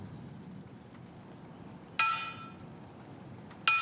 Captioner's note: metal clanking